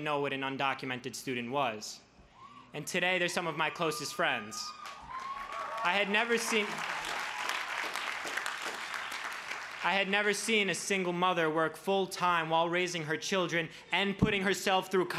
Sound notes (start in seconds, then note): 5.6 crowd cheers